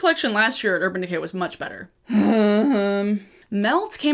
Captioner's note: groans